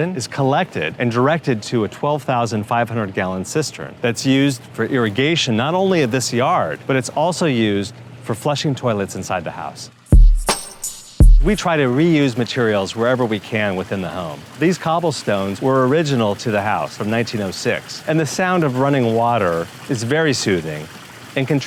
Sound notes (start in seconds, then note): 17.1 water trickling